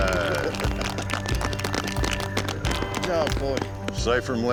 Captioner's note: applause